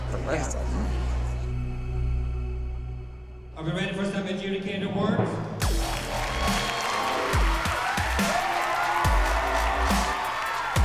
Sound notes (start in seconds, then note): 5.6 cheering and applause